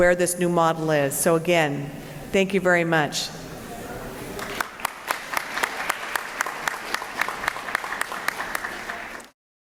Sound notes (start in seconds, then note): 4.3 applause